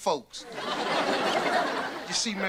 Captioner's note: audience laughter